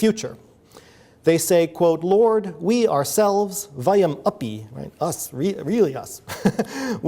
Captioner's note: laughs